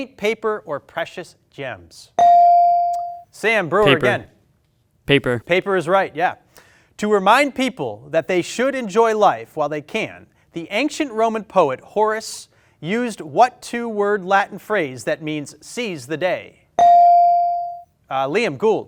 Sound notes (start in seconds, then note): 2.2 bell ring; 16.8 bell ring